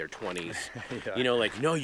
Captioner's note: laughing